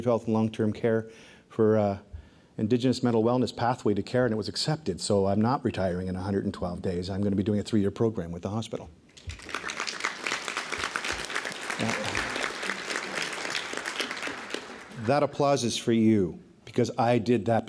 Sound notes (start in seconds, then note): 9.1 applause